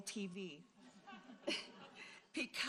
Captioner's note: audience laughing